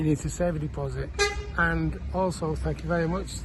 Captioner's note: car horn honks loudly